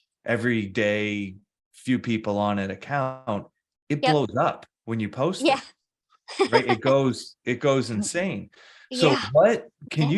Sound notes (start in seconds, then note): 6.3 laughs